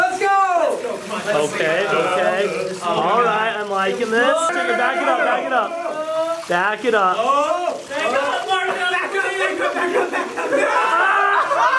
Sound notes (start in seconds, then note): 8.5 yelling